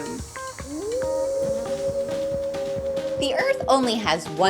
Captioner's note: howling